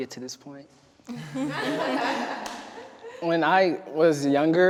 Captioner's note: everyone laughing